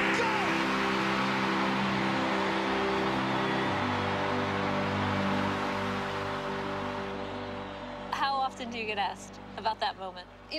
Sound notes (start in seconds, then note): 0.0 cheering